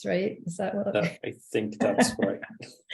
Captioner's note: chuckling